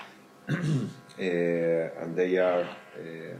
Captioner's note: throat clearing